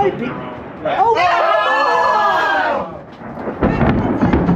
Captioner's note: thunder rumbling; crowd; thunder continues rumbling